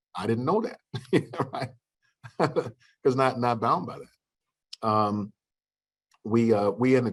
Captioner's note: laughter